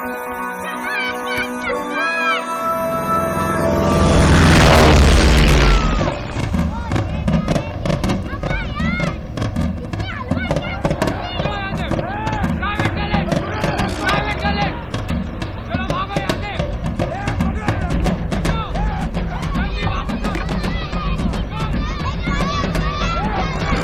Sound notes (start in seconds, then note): 3.2 airplane noise; 5.4 yelling; 8.6 non-english speech; 20.7 children yelling